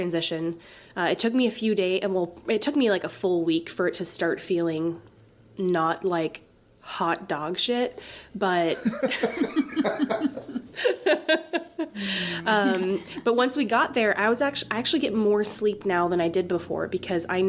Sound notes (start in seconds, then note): 8.7 all laugh